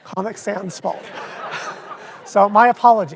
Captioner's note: audience laughs